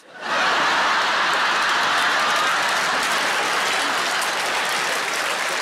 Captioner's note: audience laughing and applauding